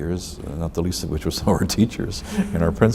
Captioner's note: laughs